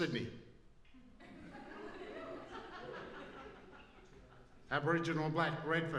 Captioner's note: laughs